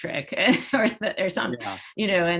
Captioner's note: laughs